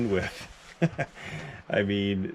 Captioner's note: laughs